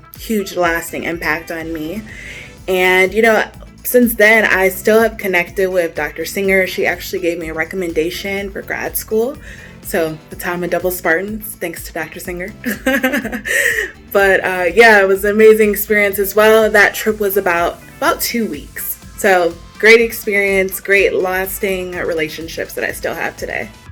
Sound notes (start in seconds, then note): 12.7 laughs